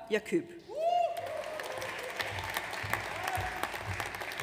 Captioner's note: audience cheers